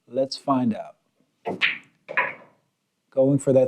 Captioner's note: ball bouncing